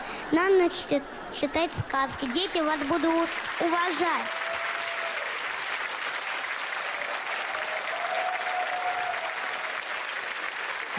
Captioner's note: applause